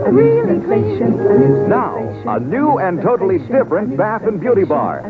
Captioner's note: announcer voice